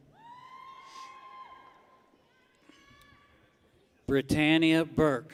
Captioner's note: people cheer